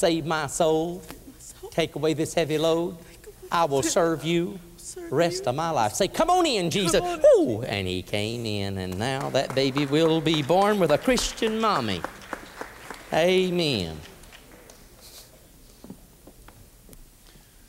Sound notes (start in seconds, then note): 1.6 weeping; 8.8 applause